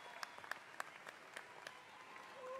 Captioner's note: audience cheers